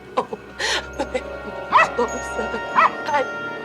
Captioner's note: dog barking